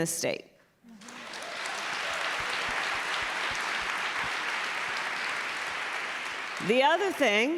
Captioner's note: applause